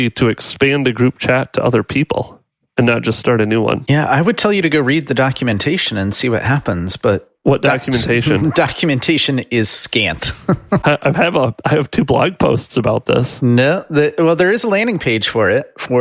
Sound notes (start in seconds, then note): 10.2 chuckles